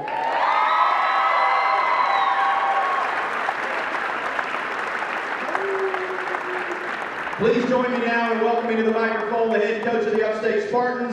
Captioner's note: cheering